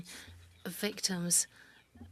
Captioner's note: speaking French